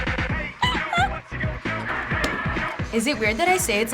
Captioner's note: laughing